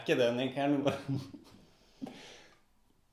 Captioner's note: difficulty holding laughter back